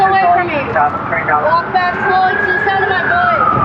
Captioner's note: radio c chatttte